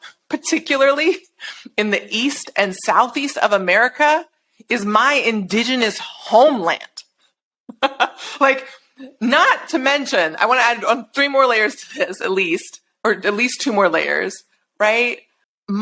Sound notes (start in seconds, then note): 7.7 laughing